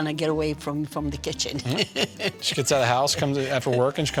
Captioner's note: laughter